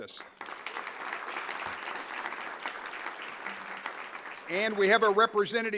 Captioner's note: applause